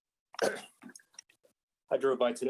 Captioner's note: clears throat